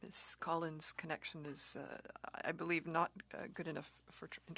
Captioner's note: speaking French